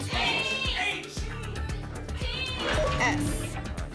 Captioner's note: audience shouting letters